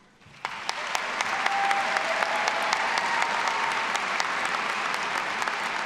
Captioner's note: all applauding and cheering